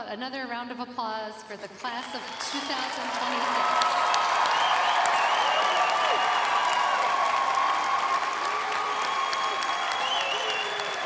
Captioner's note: cheers and applause